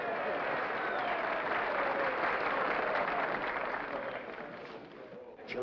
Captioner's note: crowd cheers & applauds